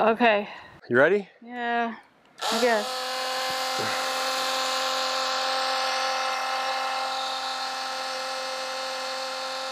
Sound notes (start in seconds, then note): 2.4 pump roaring